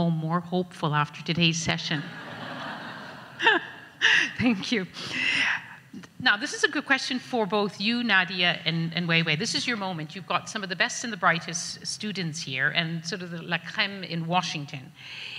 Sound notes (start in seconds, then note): 2.0 audience laughs